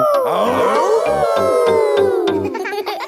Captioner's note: all howling; howling